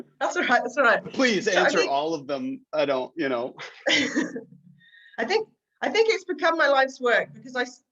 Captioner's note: laughter